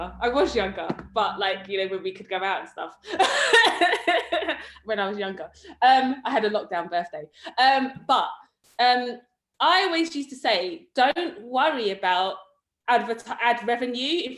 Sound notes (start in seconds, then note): 3.3 laughs